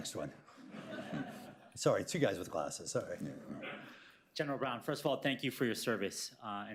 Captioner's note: laughter